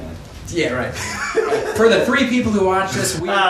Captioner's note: laughing